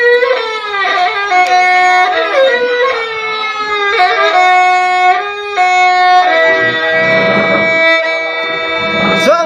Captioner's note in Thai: ปรบมือ